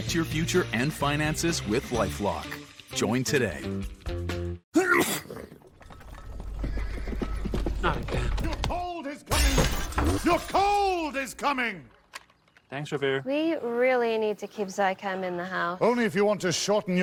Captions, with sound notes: (Sneeze) (Hooves approaching) Not again. Your cold is coming! Your cold is coming! Thanks...Revere. We really need to keep ZICAM in the house.